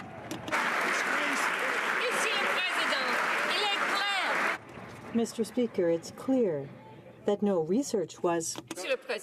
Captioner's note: some Applause